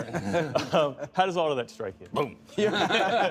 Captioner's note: laughter